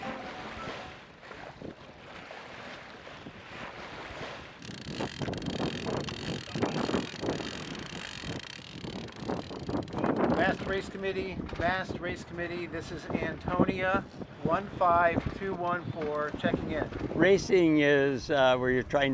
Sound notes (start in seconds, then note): 2.5 water swooshing; 7.6 crank creaking